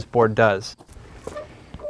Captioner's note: clamp squeaking